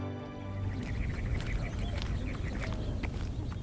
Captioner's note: birds chirping